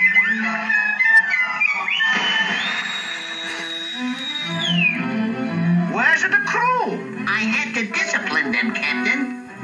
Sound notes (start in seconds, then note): 0.8 whistle Blowing